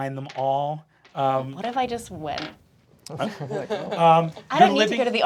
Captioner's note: cast laughing